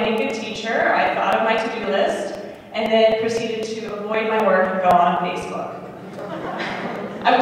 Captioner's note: laughter